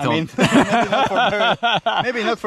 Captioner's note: laughing